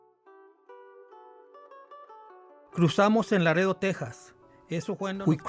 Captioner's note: speaks Spanish